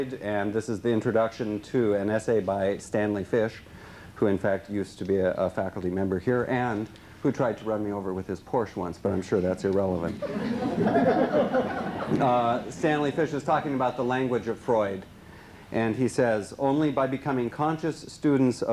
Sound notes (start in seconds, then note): 10.1 laughter